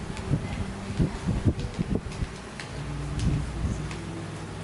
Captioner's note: fire crackling